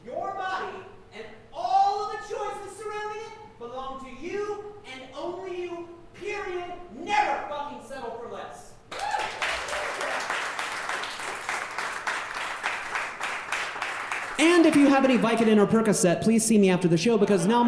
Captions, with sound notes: Your body and all of the choices surrounding it belong to you and only you, period. Never fucking settle for less. (audience cheering and clapping) And if you have any Vicodin or Percocet, please see me after the show,